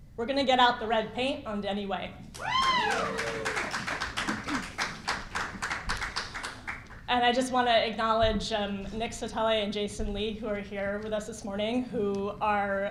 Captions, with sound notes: we're going to get out the red paint on Denny Way. (cheering and applause) And I just want to acknowledge, next to Ty and Jason Lee who are here with us this morning, who are,